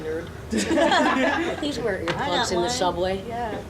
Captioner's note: audience laughing